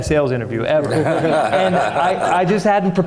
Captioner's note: everyone laughing